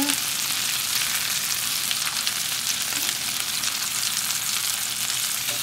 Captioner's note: intense sizzling